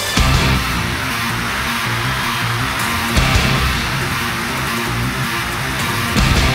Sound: crowd cheering; heavy metal music

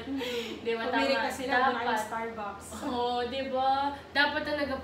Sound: giggles

